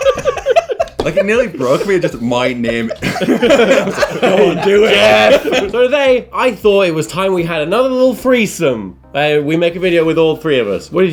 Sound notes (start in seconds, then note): 0.0 all laughing